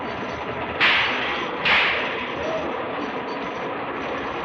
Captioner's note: whip lashing